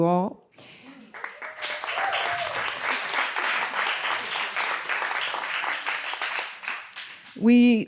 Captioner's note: audience applauding